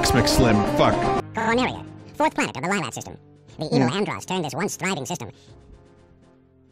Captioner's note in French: avec une voix très aiguë